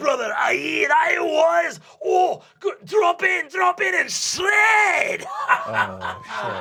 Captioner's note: laughs